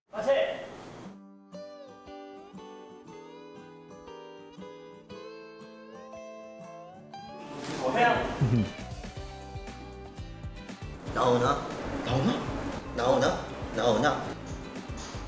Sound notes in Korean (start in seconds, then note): 8.1 웃음소리